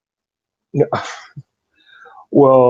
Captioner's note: laughs